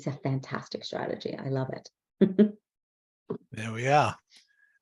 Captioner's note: chuckles